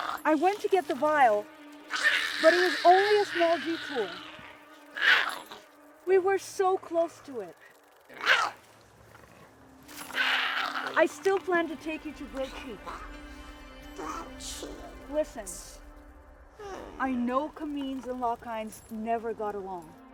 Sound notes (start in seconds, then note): 5.0 Giree growls; 8.2 Giree growling